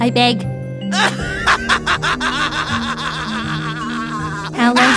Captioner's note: laughing